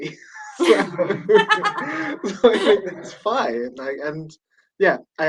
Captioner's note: laughter